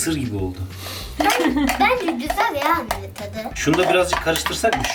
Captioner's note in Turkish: Gülüşmeler